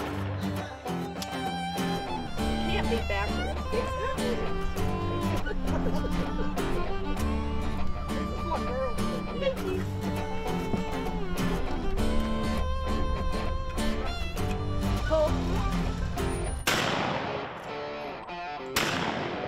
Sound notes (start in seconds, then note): 0.0 gunshots; 0.3 bluegrass music; 3.0 indistinct conversation; 16.7 gunshot